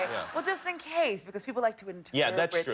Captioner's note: laughter